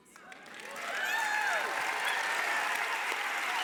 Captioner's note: applause